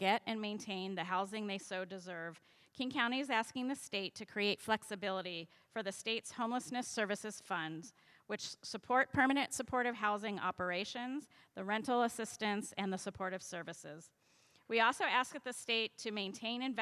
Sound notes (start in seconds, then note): none